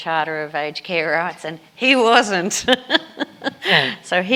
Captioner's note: laughs